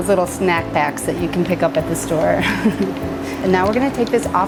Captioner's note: laughs